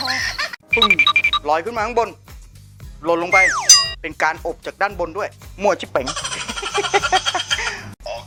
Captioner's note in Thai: เสียงหัวเราะ